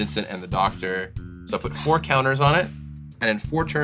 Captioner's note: sighs